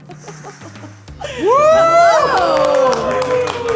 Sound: group cheering

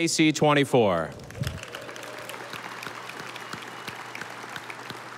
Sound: audience applauding

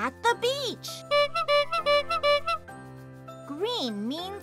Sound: horn honking

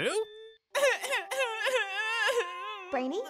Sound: crying

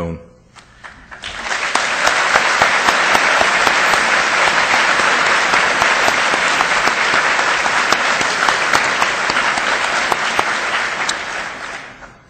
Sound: audience applause

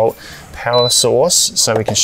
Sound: beep sound

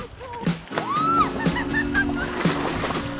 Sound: squeals delightedly

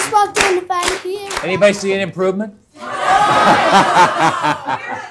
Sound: laughter

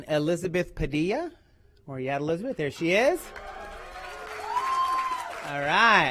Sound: applause

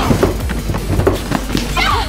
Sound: crashing

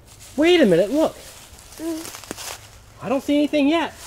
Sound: voiceover

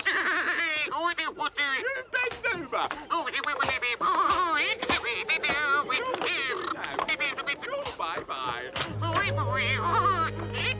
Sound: puppet talk

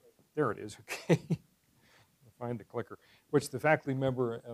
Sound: laugh

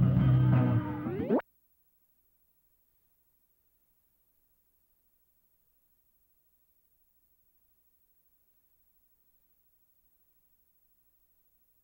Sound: silence

